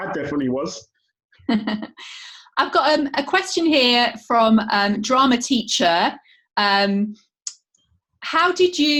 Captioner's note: laughter